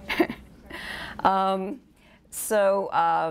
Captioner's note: laughs